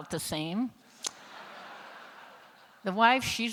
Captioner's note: laughter